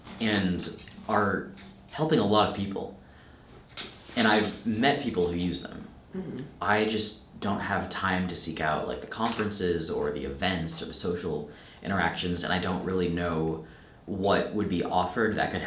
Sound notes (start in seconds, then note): none